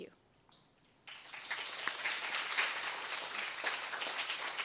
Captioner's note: audience applauds